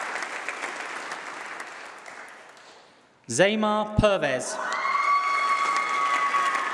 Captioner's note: applause